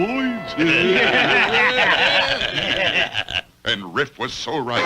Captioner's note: Riff's Men Laugh